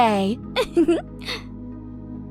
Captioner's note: chuckles; soft music